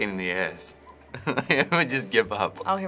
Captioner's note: laughing